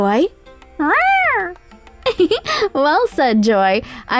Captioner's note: Joy meows